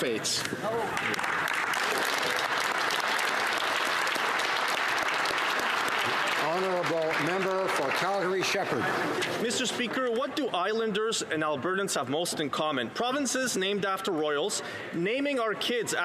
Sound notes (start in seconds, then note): 5.6 applause